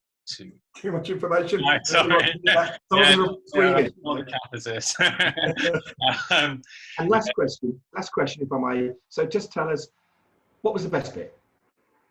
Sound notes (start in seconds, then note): 1.5 laughs